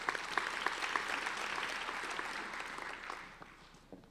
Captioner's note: applauding